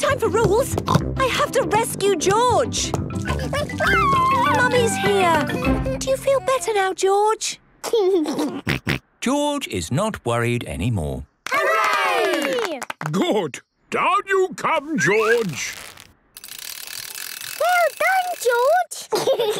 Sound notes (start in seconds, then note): 1.2 snorts; 3.4 George crying; 8.2 giggles; 19.0 giggles